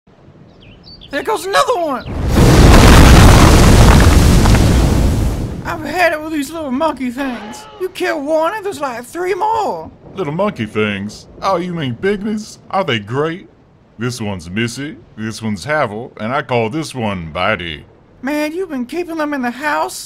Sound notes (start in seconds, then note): 2.1 crashidy crash sfx